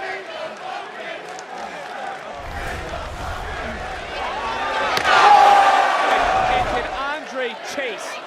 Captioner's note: crowd chants